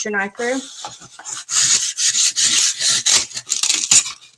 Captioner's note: foam cutting